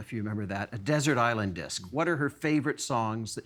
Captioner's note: none